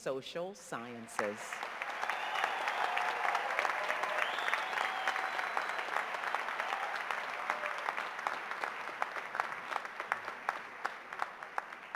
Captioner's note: cheers and applause